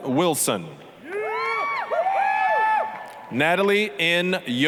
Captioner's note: applause, cheering